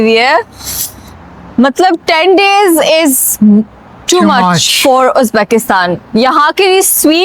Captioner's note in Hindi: नाक से की जाने वाली आवाज़